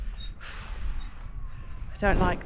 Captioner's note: fearful exhale